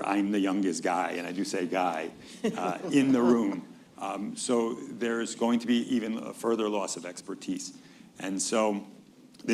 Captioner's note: laughter